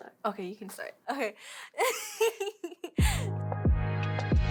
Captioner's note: laughs; upbeat music